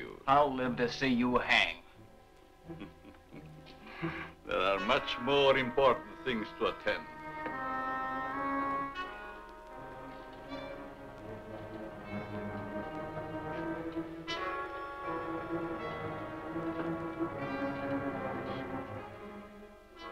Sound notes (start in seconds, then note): 2.6 soft chuckling